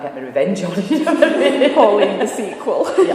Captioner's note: laughing